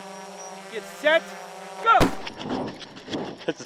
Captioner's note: gunshot firing